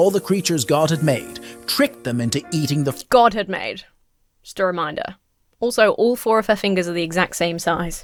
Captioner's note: none